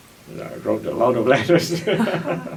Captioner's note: laughs